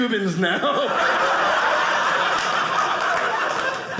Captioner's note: audience laughing